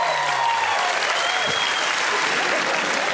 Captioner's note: cheers and applause; whistling